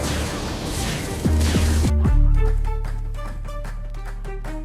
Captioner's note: thunderclap